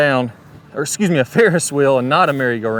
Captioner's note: chuckles